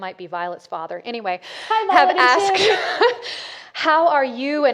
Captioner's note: laughs